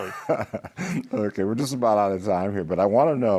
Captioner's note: laughs